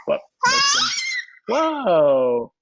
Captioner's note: screams